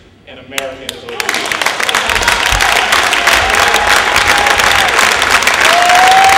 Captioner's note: applause